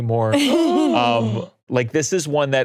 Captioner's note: laughing; gasps